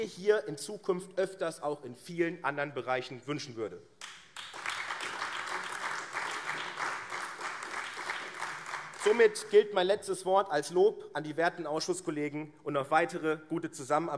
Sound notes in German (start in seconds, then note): 4.0 Beifall AfD